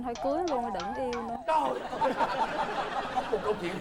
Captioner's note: laughing